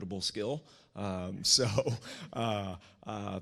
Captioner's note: chuckles